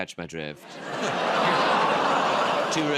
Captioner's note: audience gasps